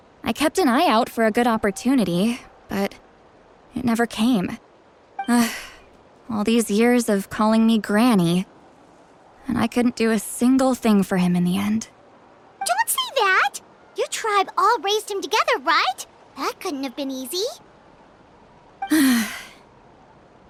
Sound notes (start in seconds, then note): 5.3 sigh